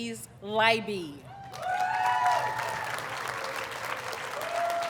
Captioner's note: audience cheers and applauds